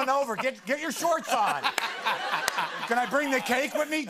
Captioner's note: laughter